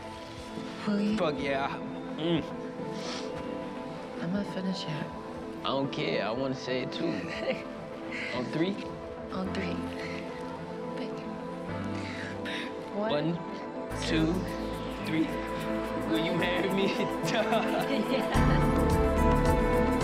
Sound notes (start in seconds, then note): 2.9 sniffles; 7.2 chuckles